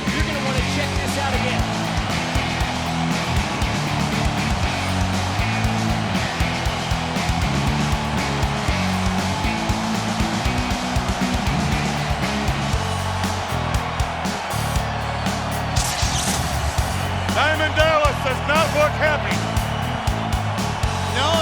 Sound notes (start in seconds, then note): 2.1 crowd cheers; 2.1 rock music plays